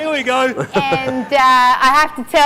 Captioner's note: laughs